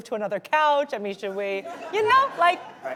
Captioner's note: audience laughing